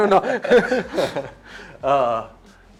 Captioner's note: laughs